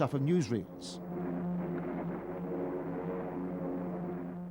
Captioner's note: humming, rumbling